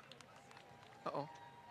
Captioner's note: applause